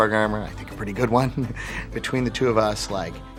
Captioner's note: laughing